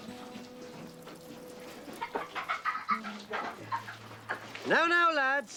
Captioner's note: Riéndose